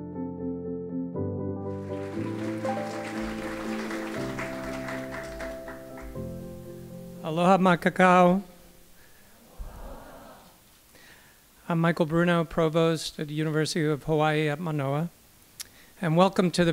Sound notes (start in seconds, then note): 1.7 applause